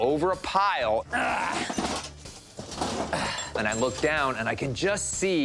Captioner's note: grunting